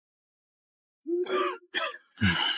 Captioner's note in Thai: ไอ ไอ